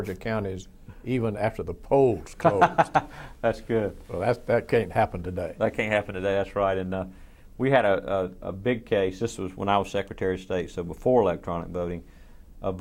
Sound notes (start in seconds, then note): 2.4 laughs